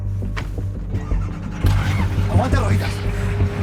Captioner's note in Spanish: Motor arranca